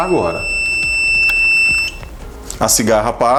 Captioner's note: buzzer alarm continues